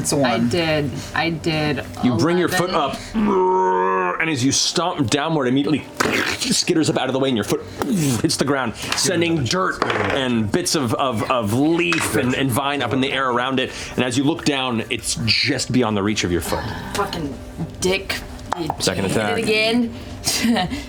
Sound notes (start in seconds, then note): 3.0 groans